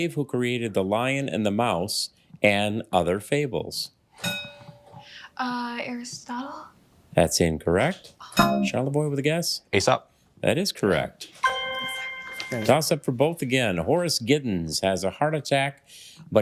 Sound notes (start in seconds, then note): 4.2 bell dings